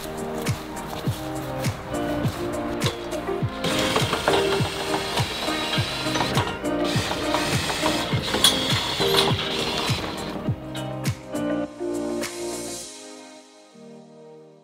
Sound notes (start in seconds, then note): 3.6 screwdriver whirring; 7.2 upbeat music